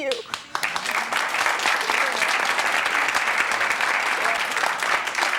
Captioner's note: audience claps